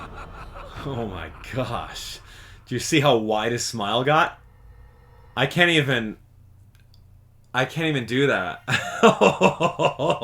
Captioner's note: chuckle